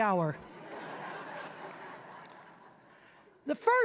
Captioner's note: audience laughing